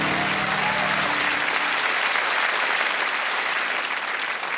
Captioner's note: cheers and applause